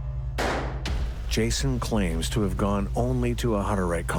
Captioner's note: gun firing